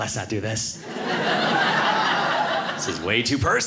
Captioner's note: audience laughing